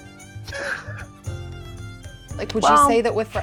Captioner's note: chuckling